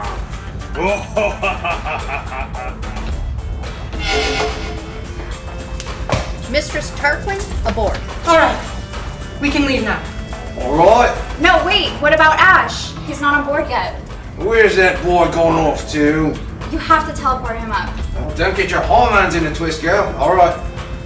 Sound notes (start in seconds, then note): 0.0 laughs; 0.8 more laughter; 4.0 teleport sound